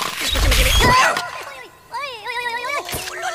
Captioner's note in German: schreit